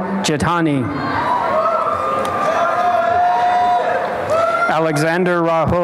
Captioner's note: applause and cheering